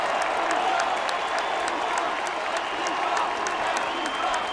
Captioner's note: chants "Thank you, Shawn"